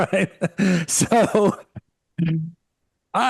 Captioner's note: laughing